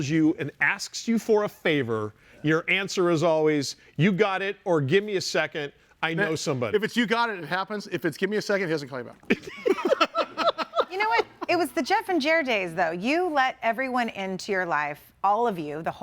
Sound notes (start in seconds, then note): 9.3 laughing